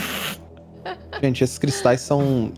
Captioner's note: laughs